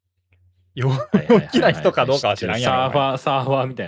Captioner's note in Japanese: 笑い